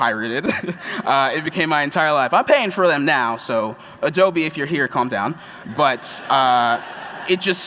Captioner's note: laughter